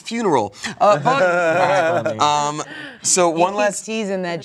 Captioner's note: everyone laughs